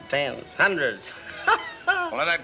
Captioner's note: laughs